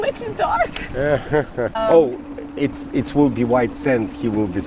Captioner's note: laughs